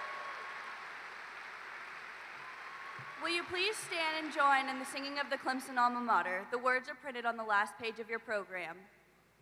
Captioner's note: applause